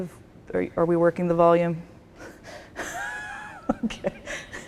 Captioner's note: laughs